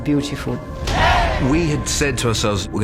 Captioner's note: crowd cheers